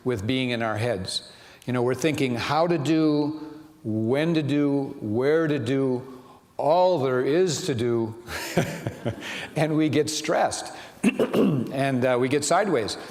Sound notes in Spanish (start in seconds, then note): 8.3 riéndose